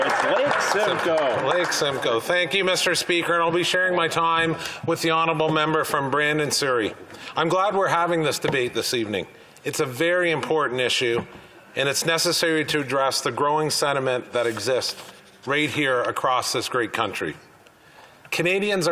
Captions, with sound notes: THE HONOURABLE MEMBER FOR YORK-SIMCOE. [ Applause and cheering ] >> THANK YOU, MR. SPEAKER. I'LL BE SHARING MY TIME WITH THE HONOURABLE MEMBER FROM BRANDON SURREY. I'M GLAD WE'RE HAVING THIS DEBATE THIS EVENING. IT'S A VERY IMPORTANT ISSUE AND IT'S NECESSARY TO ADDRESS THE GROWING